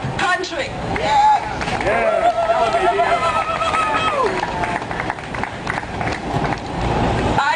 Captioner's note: clapping